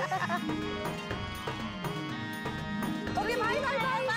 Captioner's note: laughing